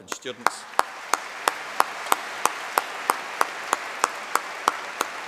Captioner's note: applause